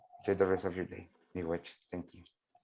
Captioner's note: speaking in a indigenous language